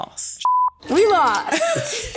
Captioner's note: beep